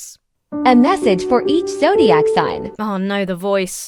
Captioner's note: AI-Generated Voice